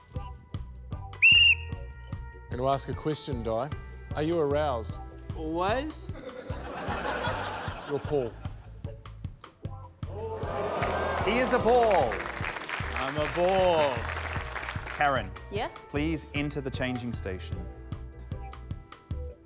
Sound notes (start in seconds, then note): 1.2 blows whistle; 6.1 laughter; 10.3 audience 'ooh's; 13.9 applause